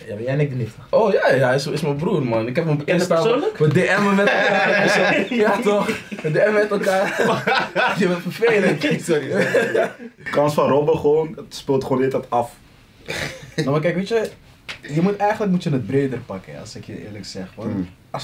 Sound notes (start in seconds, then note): 8.6 laughs